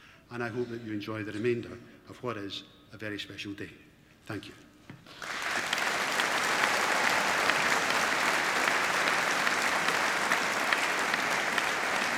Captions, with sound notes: And I hope that you enjoy the remainder of what is a very special day. Thank you. (APPLAUSE)